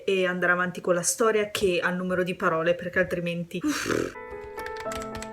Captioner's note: uffing sounds